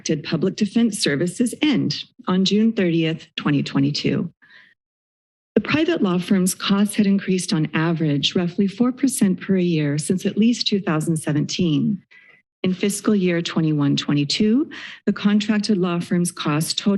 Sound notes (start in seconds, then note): 4.8 silence